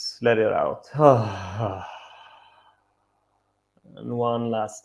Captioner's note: exhales